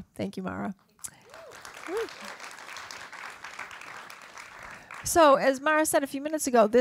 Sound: applause

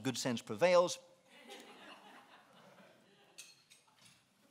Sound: laughing

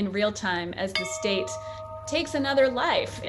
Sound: bell tolls

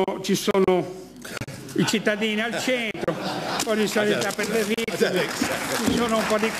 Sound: laughing

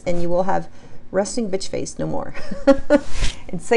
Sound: laughs

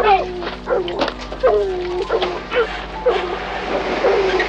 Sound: dogs barking; dramatic music

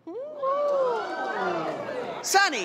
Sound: crowd cheers

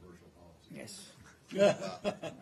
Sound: laughter

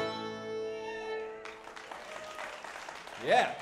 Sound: audience applauds

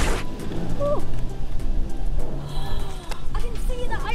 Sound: gasp

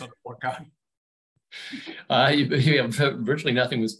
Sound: chuckles

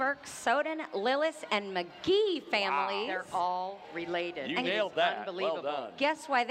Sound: laughing

